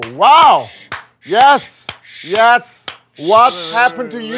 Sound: breathing hard from anger

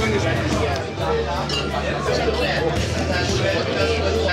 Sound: crowd chattering

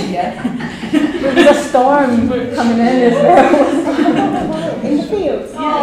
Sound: laughter

